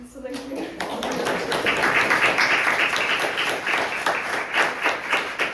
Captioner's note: audience applauding